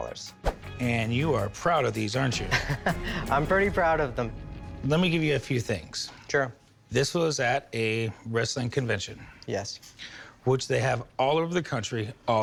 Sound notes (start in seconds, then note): 2.4 laughs